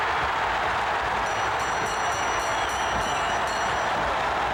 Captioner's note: crowd cheering; bell ringing